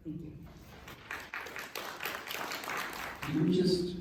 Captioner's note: applause